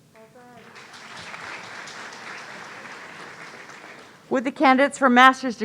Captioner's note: audience applauding